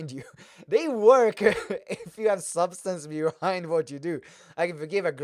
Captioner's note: laughs